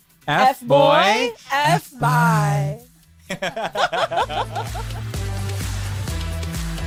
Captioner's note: laughing